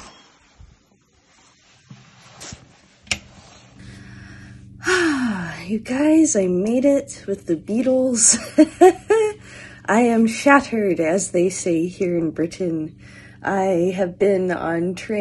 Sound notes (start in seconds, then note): 4.8 sigh; 8.4 laughter